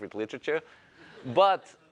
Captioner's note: laughter